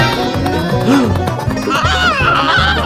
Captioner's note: gasp!